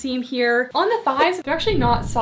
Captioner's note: graphics whooshing